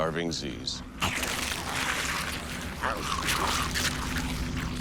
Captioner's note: snarling, munching